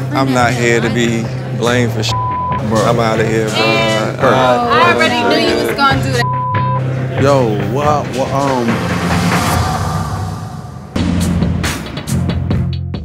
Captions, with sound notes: I'm not here to be blamed for (beep), bro. I'm outta here, bro. - Man, I already knew you was gonna do that (beep). - Yo. What, um. (dramatic music) (rhythmic music)